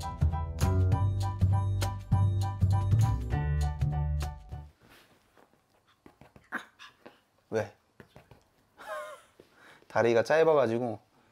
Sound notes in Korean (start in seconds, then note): 4.8 다다닥!